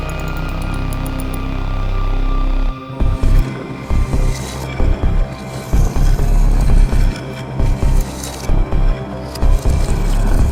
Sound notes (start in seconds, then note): 0.0 mechanical clicking as lever moves; 1.2 deep rumbling and grinding noise